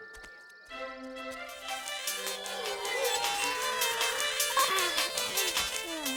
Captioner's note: spell phone rings, playing music